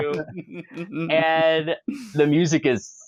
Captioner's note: laughter